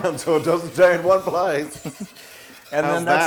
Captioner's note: laugh